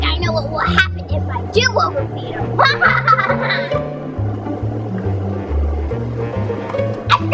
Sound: evil laughs

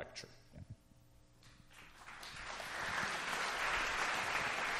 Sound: applause

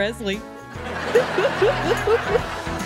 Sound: laughing

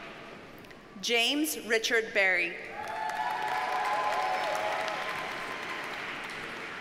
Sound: audience cheers and applauds

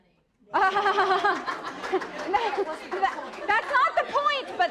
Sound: laughter

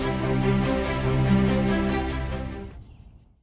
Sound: birds chirping

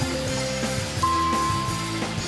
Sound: dinging

